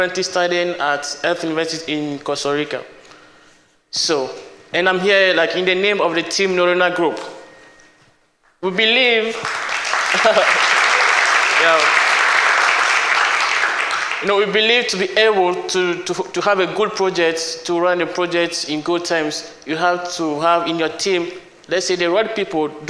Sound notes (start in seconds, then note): 9.2 applause